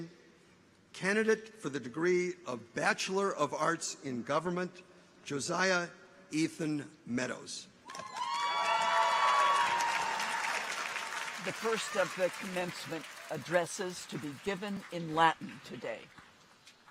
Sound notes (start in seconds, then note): 7.8 people cheer; 7.9 audience applauds